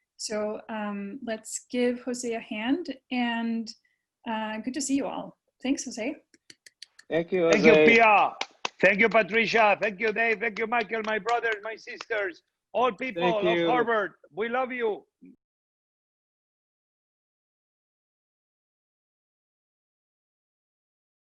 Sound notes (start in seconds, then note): 7.5 clapping